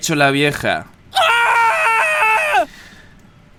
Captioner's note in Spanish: gritos